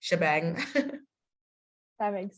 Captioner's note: laughing